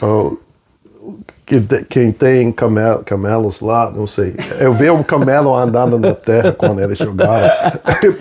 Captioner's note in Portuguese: risadas